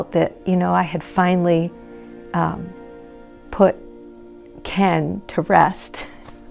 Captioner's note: laughing